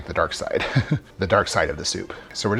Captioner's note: chuckling